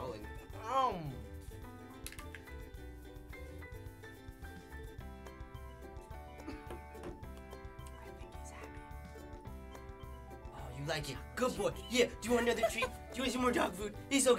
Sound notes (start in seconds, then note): 7.8 whispering; 12.4 laughs